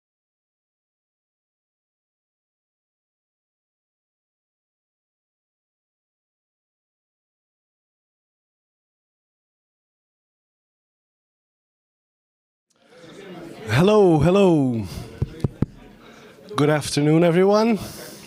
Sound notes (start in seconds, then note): 15.0 taps mic